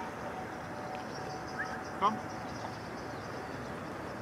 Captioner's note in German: Pfeift